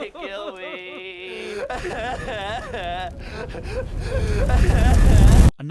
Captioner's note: crying